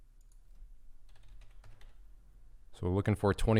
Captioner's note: typing